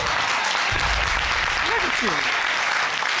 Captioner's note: audience applauding